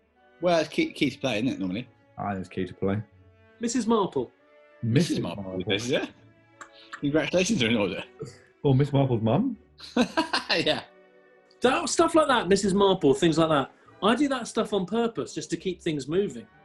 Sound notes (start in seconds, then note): 4.9 laughing; 9.8 laughs